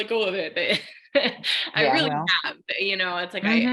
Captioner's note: laughing